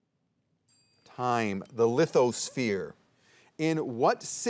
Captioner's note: soft chiming